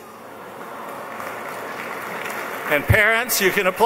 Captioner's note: applause